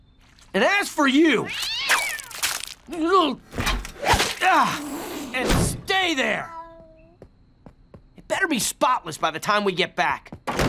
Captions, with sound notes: And as for you... [screeching] [grunting] And stay there. It better be spotless by the time we get back.